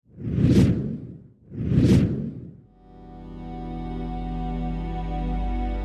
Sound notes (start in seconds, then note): 0.0 wind whooshing; 2.7 pensive music